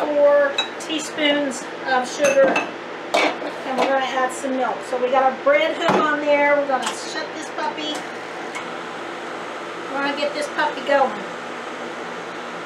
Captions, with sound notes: four teaspoons of sugar. And here I have some milk. So we gotta brand hook on here. We're gonna shut this puppy, (KitchenAid machine roaring) we're gonna get this puppy going.